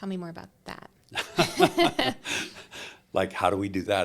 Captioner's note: both laughing